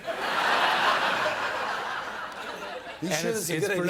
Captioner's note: laughter